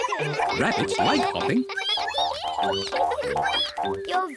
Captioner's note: all giggle; all squeak